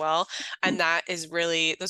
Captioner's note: laughs